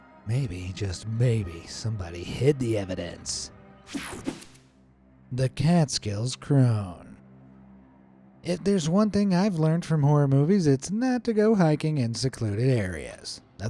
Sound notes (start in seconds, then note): 3.9 transition slashes